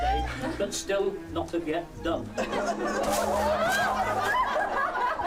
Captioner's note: laughter